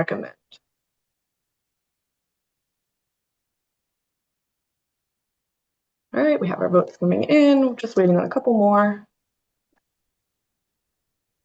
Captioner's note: pause